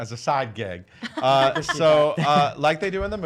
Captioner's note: laughs